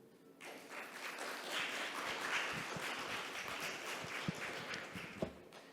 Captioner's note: audience applauding